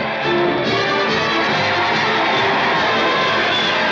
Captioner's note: cheering loudly